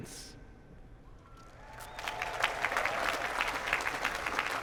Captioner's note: cheers, applause